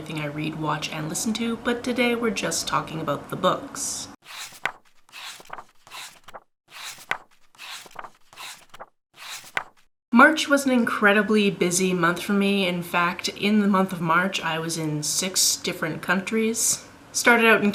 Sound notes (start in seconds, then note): 4.2 pages turning